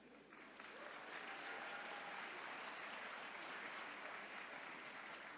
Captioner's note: attendees cheering